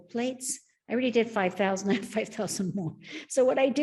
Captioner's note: laughing